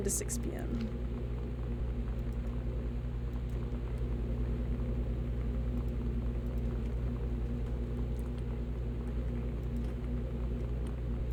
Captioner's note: loud Humming